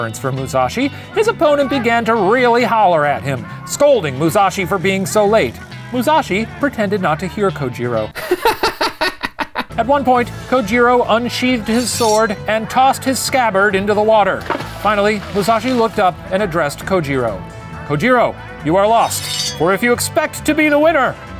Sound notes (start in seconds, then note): 8.1 laughing